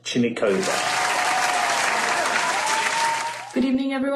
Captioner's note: applause